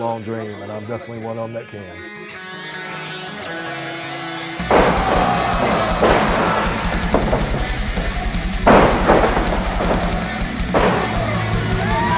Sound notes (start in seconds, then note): 2.1 rock music playing; 4.6 thud; 6.4 crowd cheering; 8.5 falling; 10.2 punching; 10.2 rock music playing; 11.8 crowd cheering; 11.8 rock music playing